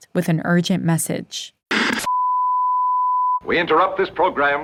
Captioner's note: soundbite of archived recording